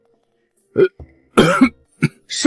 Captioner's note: cough, cough, cough